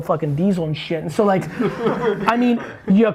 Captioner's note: group laughs